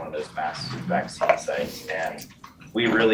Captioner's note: object scraping